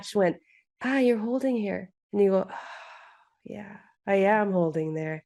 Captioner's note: sigh